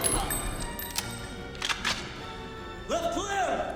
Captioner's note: guns clicking